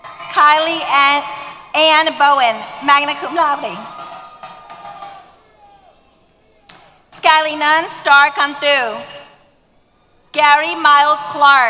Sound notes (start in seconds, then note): 4.7 cheers